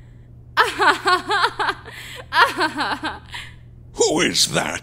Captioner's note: laughing